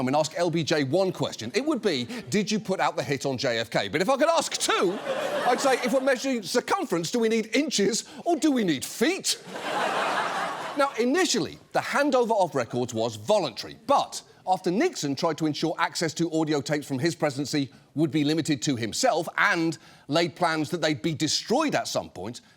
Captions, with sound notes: and ask LBJ one question, it would be, "Did you put out the hit on JFK?" But if I could ask two, I'd say, "If we're measuring circumference, do we need inches or do we need feet?" (AUDIENCE LAUGHS) Now, initially, the handover of records was voluntary, but after Nixon tried to ensure access to audio tapes from his presidency would be limited to himself and laid plans that they'd be destroyed at some point,